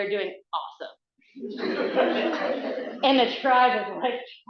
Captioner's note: audience laughing